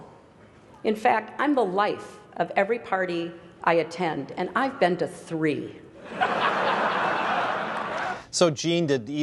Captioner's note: laughter